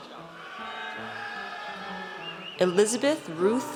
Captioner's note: audience cheers